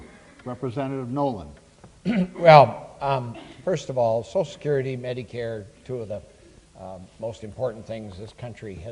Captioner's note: clears throat